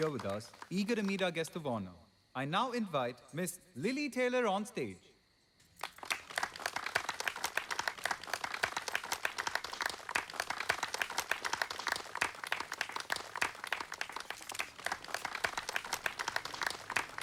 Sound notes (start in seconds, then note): 5.4 clapping